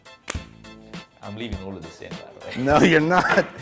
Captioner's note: laughs